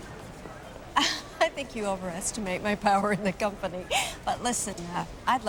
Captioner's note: chuckles